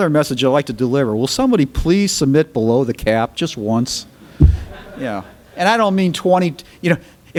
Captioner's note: laughter